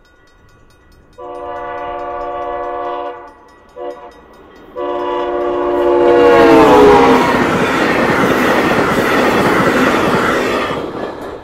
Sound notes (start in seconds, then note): 1.2 louder, clearer horn; 4.7 loud horn, passing; 7.7 whooshing wheels